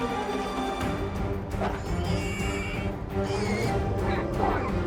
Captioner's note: piglet squeals